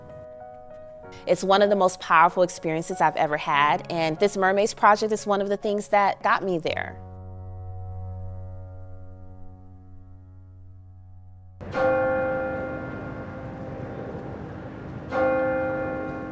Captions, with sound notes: It's one of the most powerful experiences I've ever had. And this mermaids project is one of the things that got me there. (bell ringing)